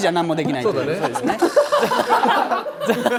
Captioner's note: hahahaha